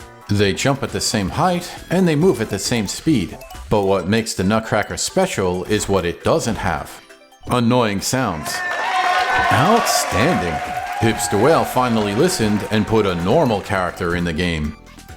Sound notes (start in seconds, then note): 8.3 crowd Cheers!